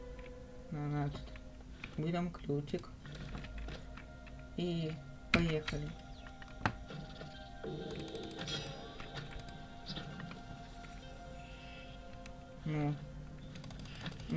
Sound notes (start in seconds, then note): 7.3 clicks